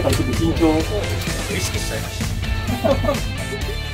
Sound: laughs

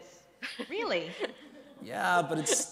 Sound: crowd laughs

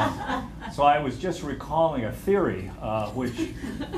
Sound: laughter

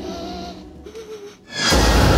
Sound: whimpering

